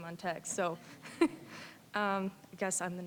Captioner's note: chuckling